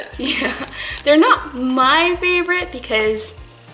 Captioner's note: laughs